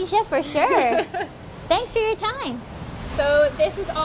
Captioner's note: chuckles